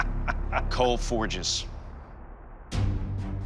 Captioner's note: laughs